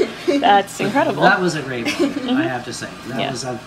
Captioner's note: laughter